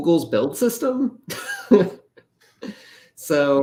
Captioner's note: laughter